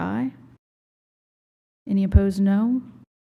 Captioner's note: audio cut out; silence